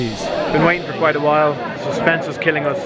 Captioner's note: crowd murmuring